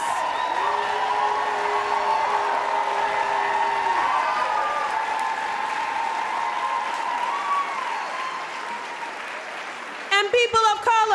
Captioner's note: applause